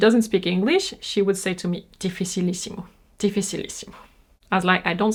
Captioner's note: speaks in foreign language